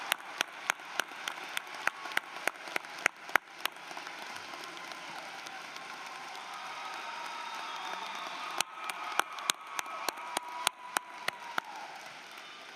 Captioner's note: applause